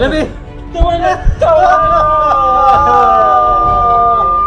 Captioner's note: crying